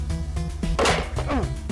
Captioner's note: clank